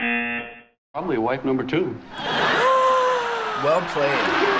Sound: buzzer; gasping

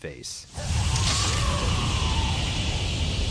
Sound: growls

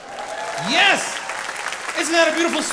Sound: audience applauding

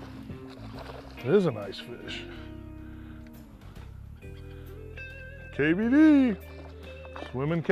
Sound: splashing

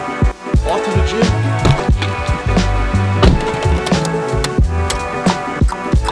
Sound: car door slams

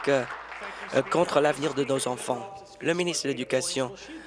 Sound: applause

